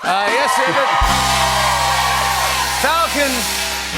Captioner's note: cheers and applause